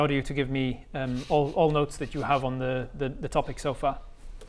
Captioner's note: highbrow snickering